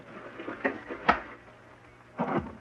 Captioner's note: pop!